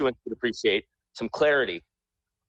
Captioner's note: ~interference~